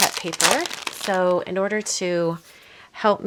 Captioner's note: paper crinkling